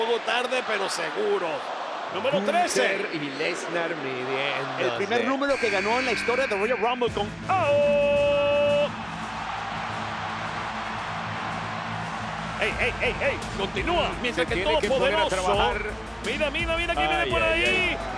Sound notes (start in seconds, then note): 8.9 applause